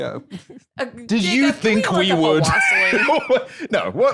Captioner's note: laughs